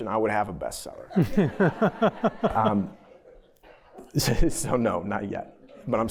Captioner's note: laughter